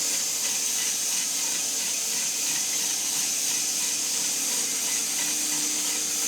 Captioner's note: saw buzzing continues